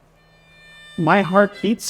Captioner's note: speaks in Japanese